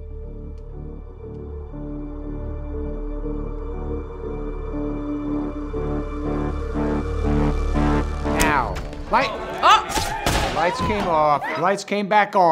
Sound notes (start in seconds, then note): 0.3 suspenseful music; 9.9 gun pops